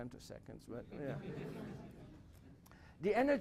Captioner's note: laughter